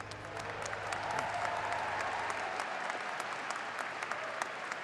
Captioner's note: audience applauding